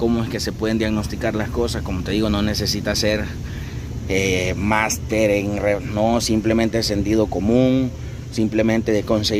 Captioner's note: hvac